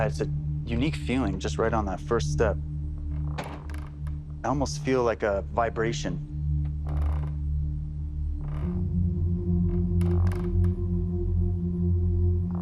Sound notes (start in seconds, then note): 8.2 stairs creaking softly